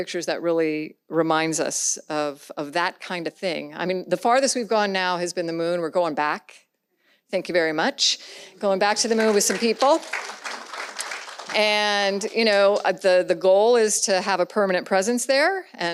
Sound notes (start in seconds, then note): 8.6 audience claps